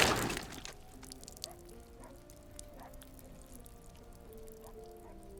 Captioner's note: blood dripping